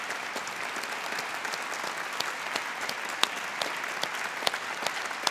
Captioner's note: applause